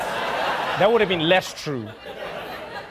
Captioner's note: audience laughing